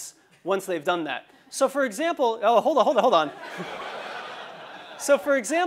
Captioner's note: laugh